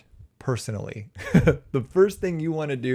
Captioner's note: chuckles